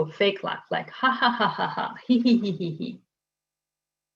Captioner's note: laughing